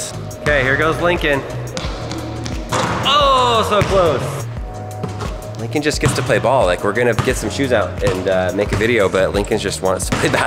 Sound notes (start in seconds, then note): 2.5 basketball thuds on rim; 10.2 laughs